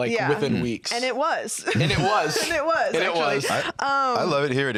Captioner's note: laughs